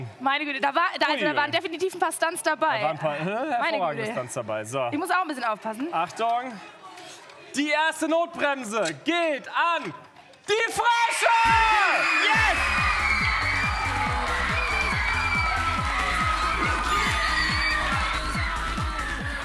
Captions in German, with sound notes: Da waren definitiv ein paar Stunts dabei. Ich muss auch ein bisschen aufpassen. Achtung. Die erste Notbremse geht an die Frösche. (Jubel) (Dynamische Musik) (Lauter Jubel)